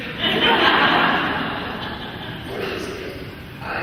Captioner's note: laughing